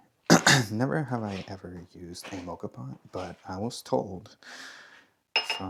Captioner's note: clears throat